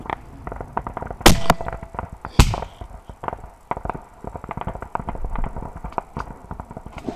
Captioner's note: sounds of sniper rifle shots; assault rifle shooting sounds